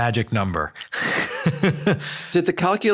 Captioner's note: laughs